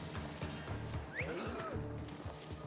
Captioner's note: whistle